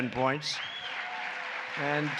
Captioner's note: applause